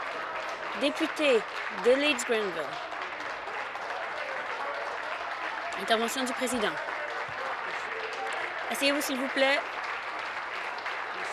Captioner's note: applause